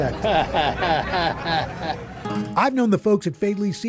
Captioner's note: chuckles